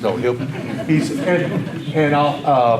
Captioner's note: audience laughter